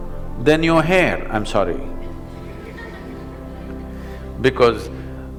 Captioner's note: laughter